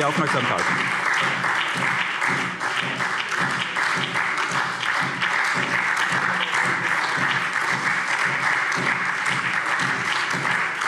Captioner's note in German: Anhaltender Beifall SPD und DIE LINKE